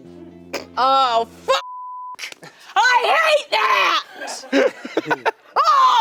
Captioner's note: beep; laughing